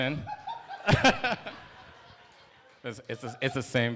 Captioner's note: laughter